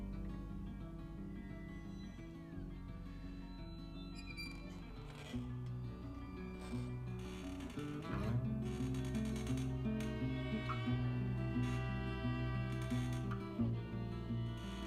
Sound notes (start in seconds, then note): 4.6 machine squeaking; 8.2 reflective music